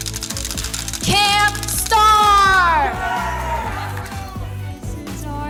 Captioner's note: drumsticks tapping; campers cheering